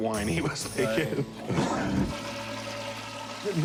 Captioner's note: flush